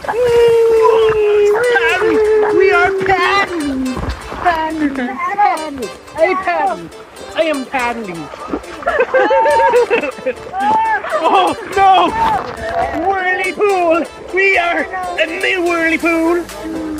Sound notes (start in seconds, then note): 8.3 laughing